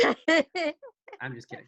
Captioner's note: giggles